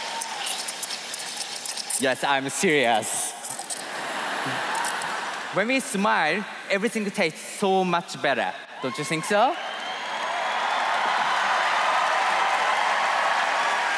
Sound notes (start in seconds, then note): 5.4 cheers and applause; 10.7 laughter